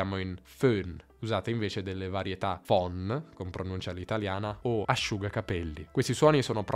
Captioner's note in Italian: con pronuncia all’italiana